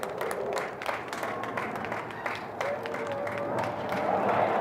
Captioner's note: planes whooshing